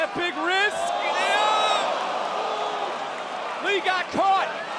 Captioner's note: audience cheering